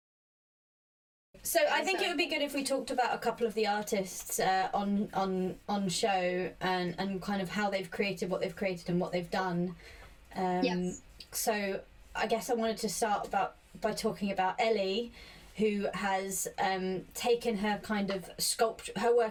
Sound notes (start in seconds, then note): none